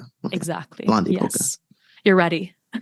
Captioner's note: foreign language 00:41:46